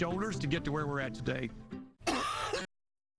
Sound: coughing

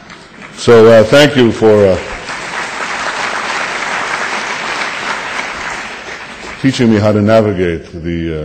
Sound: audience applause

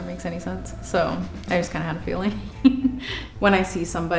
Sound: laughing

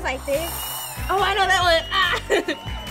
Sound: giggling

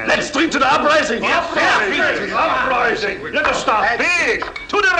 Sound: cheers

